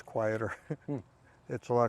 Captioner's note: laughs